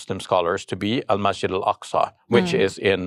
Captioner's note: foreign language